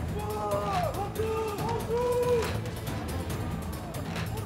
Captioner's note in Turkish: Bağırma sesleri